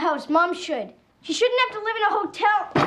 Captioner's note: banging